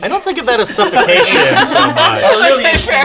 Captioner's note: laughing